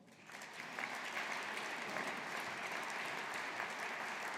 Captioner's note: audience applauding